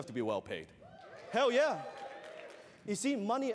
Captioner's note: audience cheers